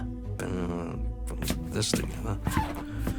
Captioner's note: grumbles